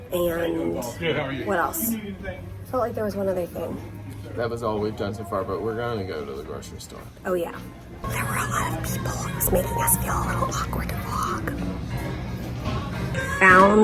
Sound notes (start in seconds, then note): 7.8 whispering